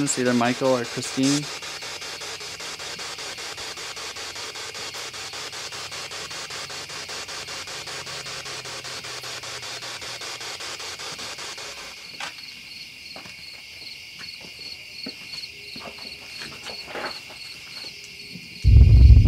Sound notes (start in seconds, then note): 3.5 static continues